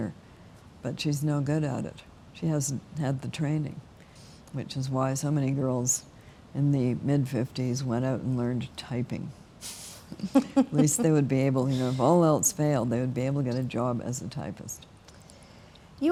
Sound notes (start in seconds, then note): 10.1 both laughing